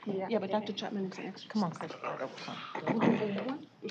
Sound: indistinct chatter

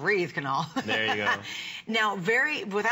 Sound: laughter

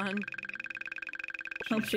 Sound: phone ringing

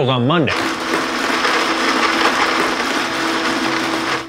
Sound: blender whirs

